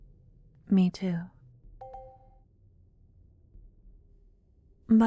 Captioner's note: positive sounding chime in the distance